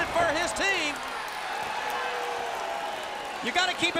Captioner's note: crowd cheering